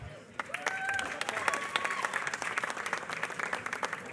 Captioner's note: applause